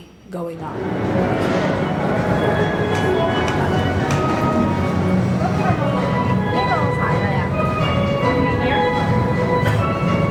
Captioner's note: train noise and steel drum music, voices talking